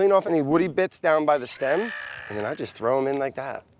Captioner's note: yelling